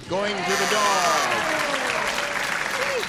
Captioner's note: applause